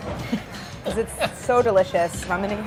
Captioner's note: laughing